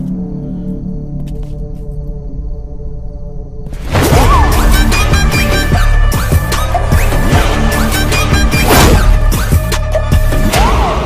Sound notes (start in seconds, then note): none